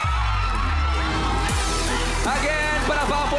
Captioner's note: audience cheering, applauding